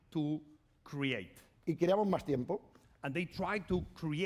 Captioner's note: speaking spanish